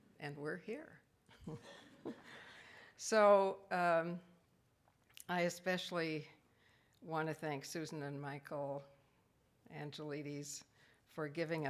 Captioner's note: laughs